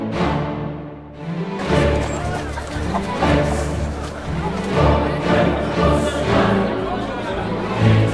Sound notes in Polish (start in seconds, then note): 1.7 odgłosy średniowiecznego rynku